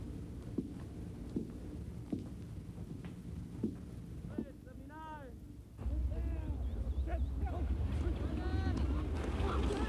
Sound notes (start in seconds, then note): 0.6 footsteps tapping